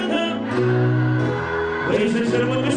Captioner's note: crowd